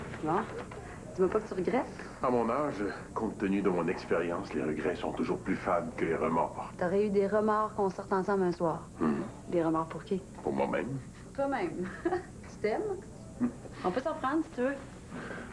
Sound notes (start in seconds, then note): 11.8 Elle rigole